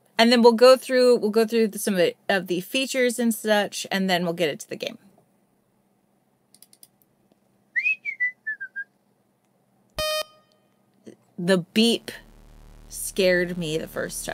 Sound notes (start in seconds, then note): 5.6 whistles idly; 6.5 mouse clicks; 10.0 loud sudden beep